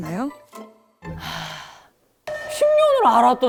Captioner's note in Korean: 터져버린 깊은 탄식